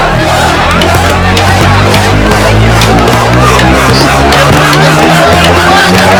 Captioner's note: protest Commotion